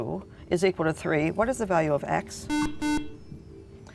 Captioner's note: buzzer